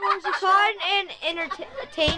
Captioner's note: children laughing in background